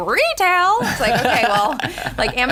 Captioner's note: laughter